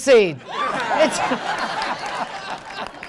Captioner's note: crowd laughing